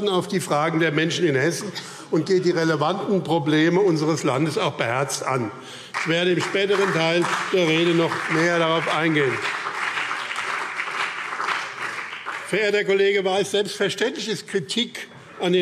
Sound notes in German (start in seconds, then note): 9.2 Beifall BÜNDNIS 90/DIE GRÜNEN und CDU